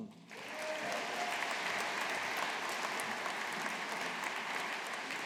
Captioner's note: audience applauding